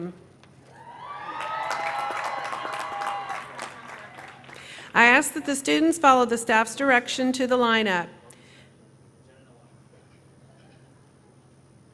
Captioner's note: cheering